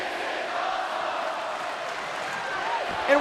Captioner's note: fans chanting